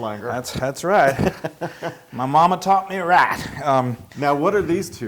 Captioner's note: laugh